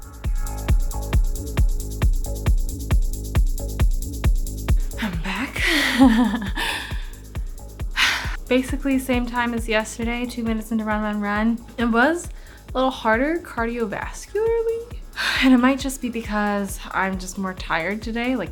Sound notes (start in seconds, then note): 0.1 upbeat music; 5.0 chuckles; 7.9 sighs